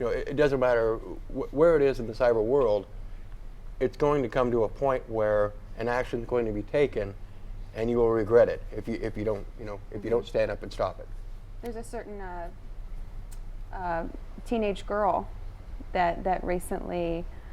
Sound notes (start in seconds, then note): none